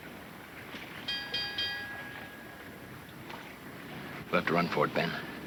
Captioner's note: bell clanging